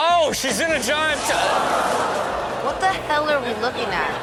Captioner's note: crowd comment